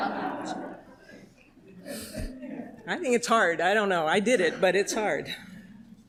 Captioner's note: laughter